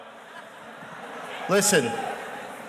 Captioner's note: audience laughs